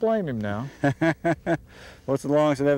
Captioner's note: laughter